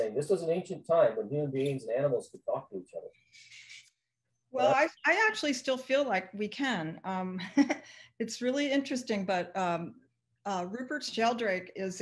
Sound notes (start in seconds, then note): 7.5 chuckles